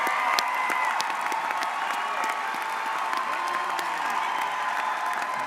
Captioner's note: audience cheers